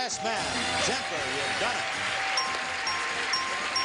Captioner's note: bell ringing; audience clapping